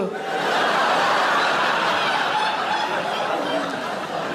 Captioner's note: audience laughing loudly